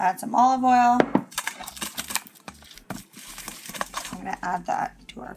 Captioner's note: light shuffling